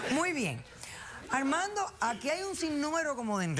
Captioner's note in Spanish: risas